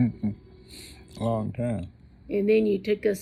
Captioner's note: laughs